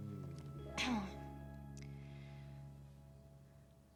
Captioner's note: clears throat